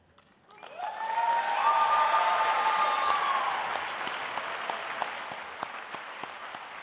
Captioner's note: applause